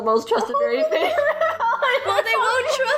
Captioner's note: laughs